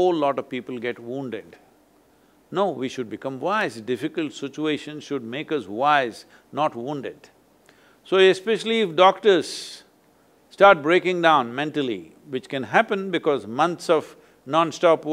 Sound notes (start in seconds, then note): none